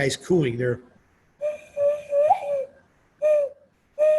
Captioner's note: mimics cooing